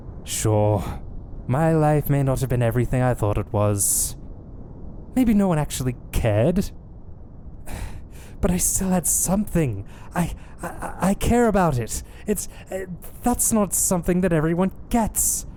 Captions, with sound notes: Sure. My life may not have been everything I thought it was. Maybe no one actually cared. *sigh* But I still had something! I-I care about it! That's not something that everyone gets!